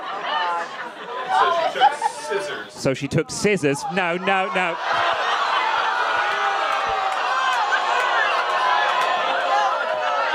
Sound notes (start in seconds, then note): 0.0 crowd laughing; 5.3 crowd clamoring and laughing